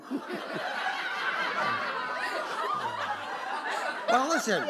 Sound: laughter; laughs

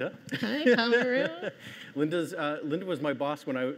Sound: host laughing

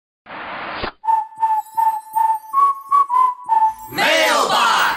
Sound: whistling

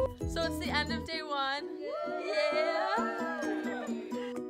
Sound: cheers

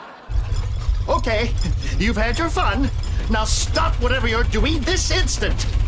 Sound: rumbling

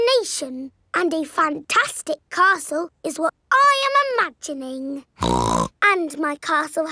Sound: snorts

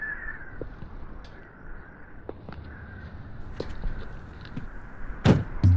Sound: pájaros

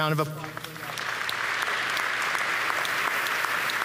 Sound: applause

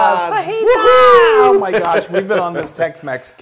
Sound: laugh

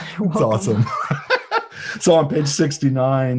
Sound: laughs

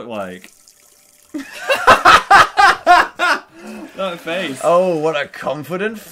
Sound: laughing loudly

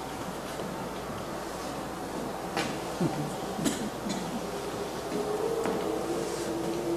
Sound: wind blowing

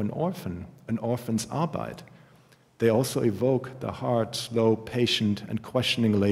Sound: german

